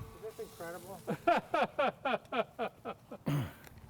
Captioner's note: laughs